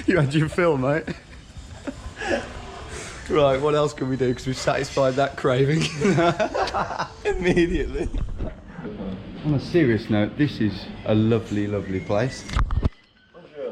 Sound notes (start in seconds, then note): 5.5 laughing